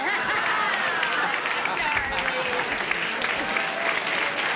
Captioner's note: laughter